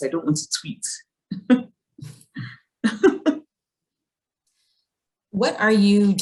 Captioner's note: Chimamanda laughs